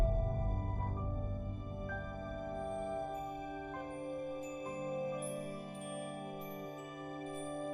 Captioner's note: gentle music; bells chiming